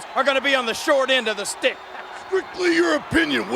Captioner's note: chuckles